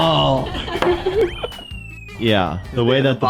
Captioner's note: laughs